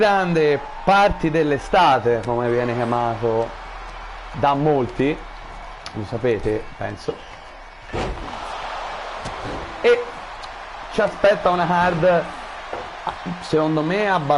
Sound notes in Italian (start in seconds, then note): 10.9 Applauso